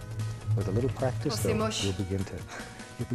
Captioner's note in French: rire